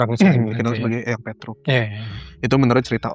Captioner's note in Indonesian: berdehem